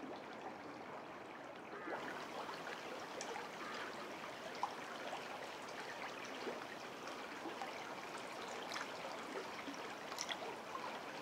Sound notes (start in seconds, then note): none